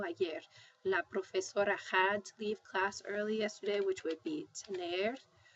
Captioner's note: spanish; spanish